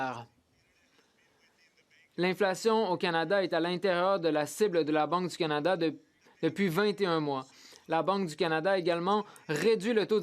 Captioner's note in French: voix de l'interprète